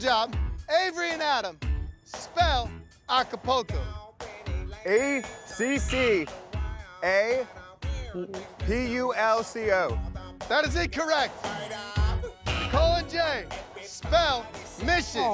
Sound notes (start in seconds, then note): 4.9 buzzer sounds